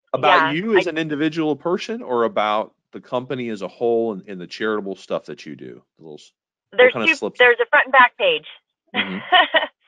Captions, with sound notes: About you as an individual person or about the company as a whole, and the charitable stuff that you do? That was, that kind of slipped. - There's two, there's a front and back page (laughing).